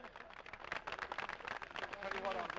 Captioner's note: applause